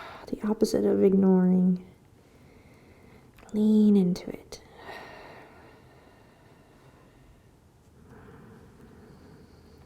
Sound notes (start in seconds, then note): 4.8 exhaling and inhaling